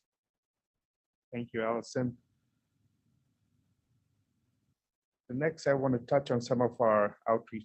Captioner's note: A pause